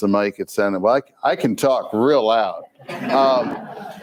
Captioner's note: crowd laughs